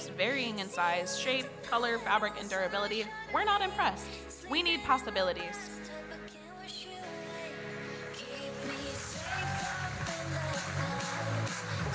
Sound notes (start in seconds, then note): 9.1 audience cheers